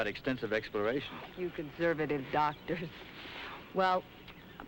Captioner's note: laughs